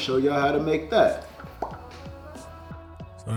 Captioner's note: bubble pop sound